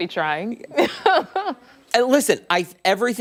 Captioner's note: laughter